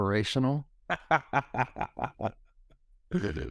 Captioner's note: chuckles